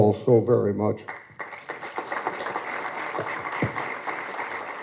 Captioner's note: applause